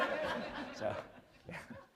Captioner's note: laughter